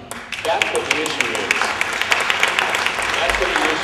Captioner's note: applause